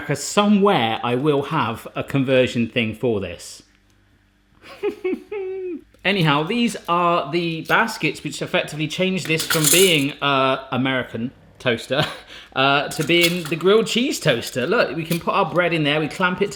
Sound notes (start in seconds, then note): 4.8 whimpers